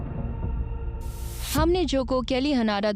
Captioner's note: narrating